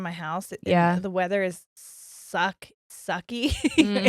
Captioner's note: laughs